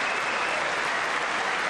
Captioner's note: applause